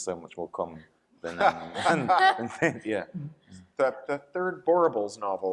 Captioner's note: panelists laughing